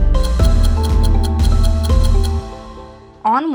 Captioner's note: ticking